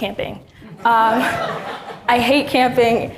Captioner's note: all laughing